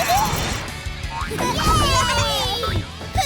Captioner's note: cheering